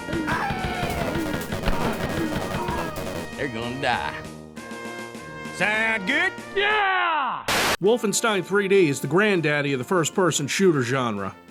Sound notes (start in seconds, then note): 0.1 blasting; 7.5 TV buzzing